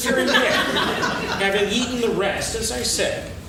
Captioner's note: laughing